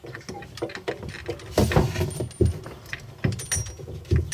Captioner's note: pipe rattling